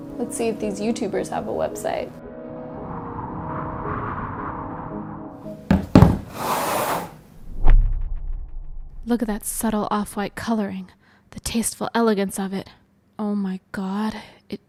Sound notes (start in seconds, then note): 2.6 dramatic music; 6.3 phone scraping